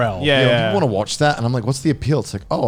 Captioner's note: laughing